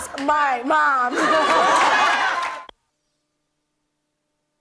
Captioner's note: audience laughs